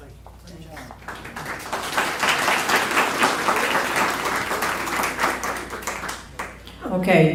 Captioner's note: applause